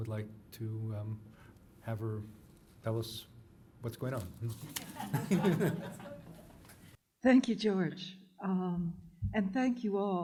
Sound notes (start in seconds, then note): 4.7 laughter